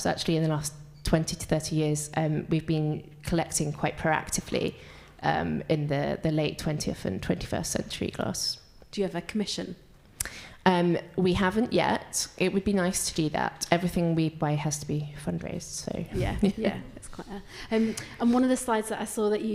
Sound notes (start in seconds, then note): 16.2 laughs